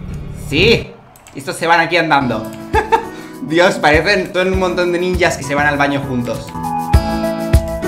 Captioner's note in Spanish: risas